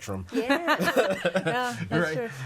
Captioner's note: all laughing